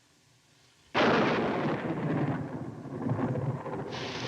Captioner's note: thunder crashing